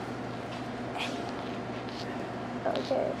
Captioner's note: whispering